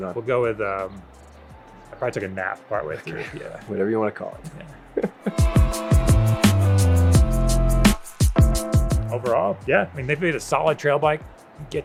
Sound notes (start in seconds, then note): 4.4 laughs; 5.6 relaxing music